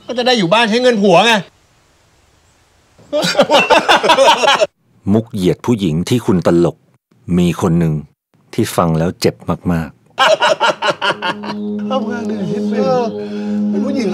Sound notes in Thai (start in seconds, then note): 3.1 เสียงหัวเราะ; 10.2 เสียงหัวเราะ; 11.2 เสียงดนตรีน่ากลัว